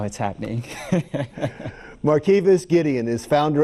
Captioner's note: laughs